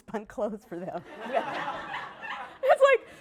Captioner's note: laughter